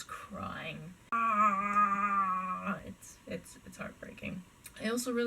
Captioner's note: Chewbacca call, but sad